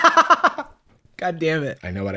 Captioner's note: cackles